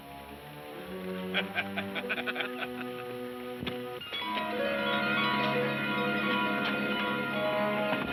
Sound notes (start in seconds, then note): 1.2 men laughing; 4.7 bright music